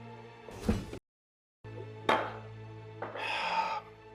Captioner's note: sighs